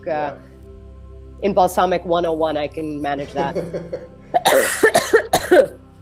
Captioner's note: coughs